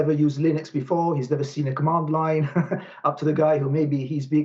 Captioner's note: laughs